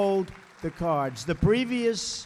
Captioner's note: applause